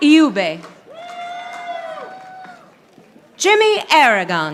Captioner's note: audience applauding